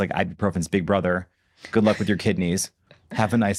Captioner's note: chuckles